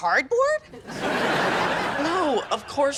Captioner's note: audience laughing